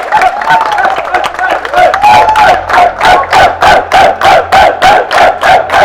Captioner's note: applauds; team cheer